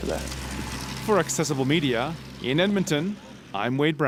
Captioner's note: voiceover